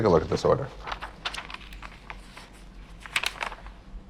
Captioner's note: paper rustling